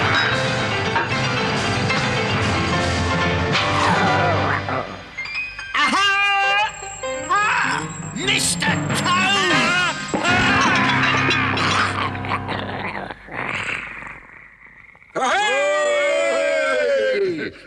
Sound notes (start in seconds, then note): 3.8 weasel groans; 10.2 Toad screams